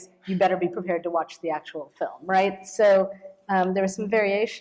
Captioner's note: none